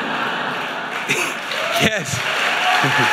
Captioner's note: audience laughing; audience applauding